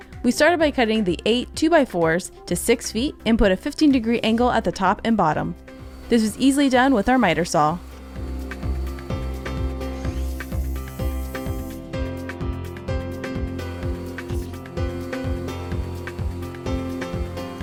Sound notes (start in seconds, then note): 6.6 pleasant percussive music; 8.1 blade whirs